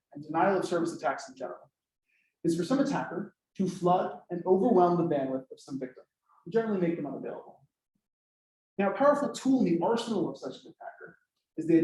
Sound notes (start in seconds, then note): none